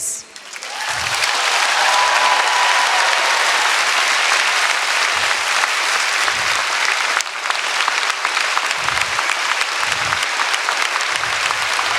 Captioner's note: applause